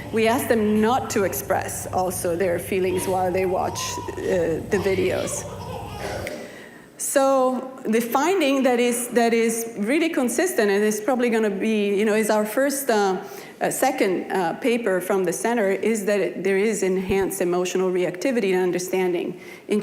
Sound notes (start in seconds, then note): 6.0 baby laughing